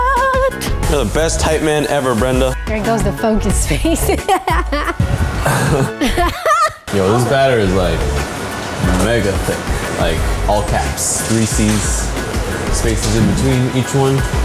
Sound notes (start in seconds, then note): 5.4 chuckles; 5.4 laughs